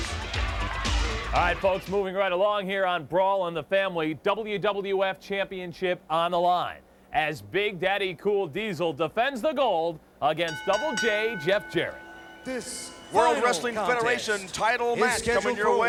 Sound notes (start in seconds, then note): 10.4 ring bell clanging